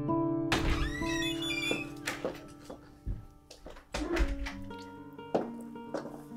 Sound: door creaking

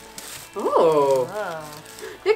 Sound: noises of intrigue and appreciation

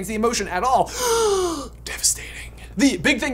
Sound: gasps

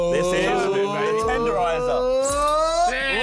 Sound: all cheering

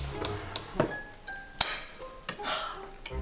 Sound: creaking door; light clicking on

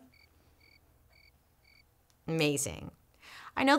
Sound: crickets chirping

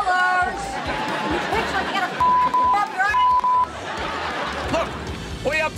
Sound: beeping noise

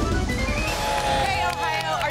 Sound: applause

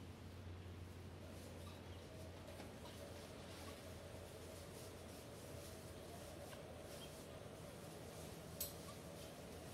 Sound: low humming of ventilation or similar; tiny squeaks of e.g. chicks

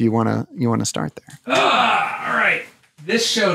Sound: grunts

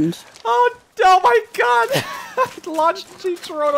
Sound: laughs

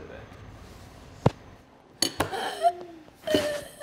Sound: boy gasps; imitates choking

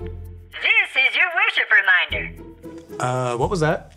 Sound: computer Voice

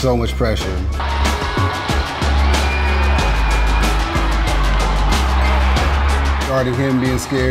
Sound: crowd cheering

